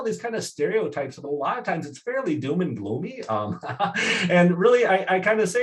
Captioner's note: laughs